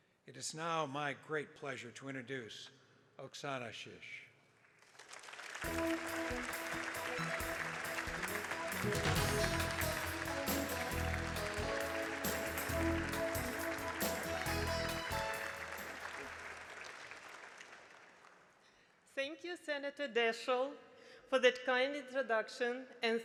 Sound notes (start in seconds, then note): 5.0 attendees applauding; 5.0 proud music